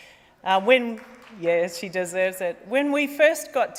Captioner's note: applause